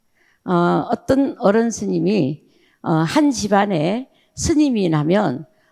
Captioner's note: speaking in foreign language